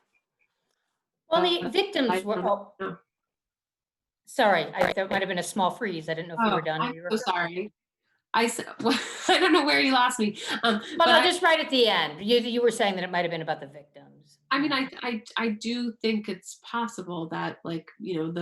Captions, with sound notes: - Well, the victims were... - I don't know. - Sorry, I'm still kind of in a small freeze, I didn't know if you were done, or you were-- - Oh, I'm so sorry. I said, (laughs) I don't know where you lost me! - Oh, no, just right at the end. You were saying that it might've been about the victims. - I mean, I do think it's possible that